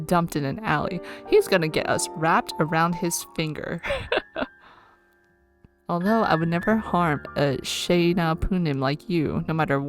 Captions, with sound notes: He is gonna get us wrapped around his finger. [laughs]